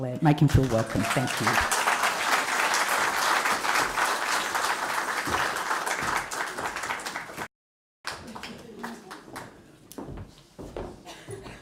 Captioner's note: applause